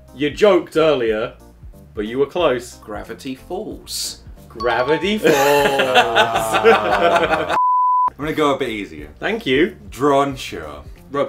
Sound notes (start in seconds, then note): 5.2 laughs